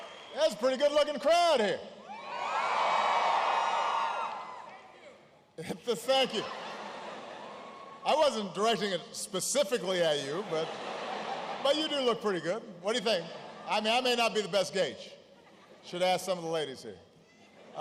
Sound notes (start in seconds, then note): 0.0 applause; 7.4 laughter; 15.1 laughter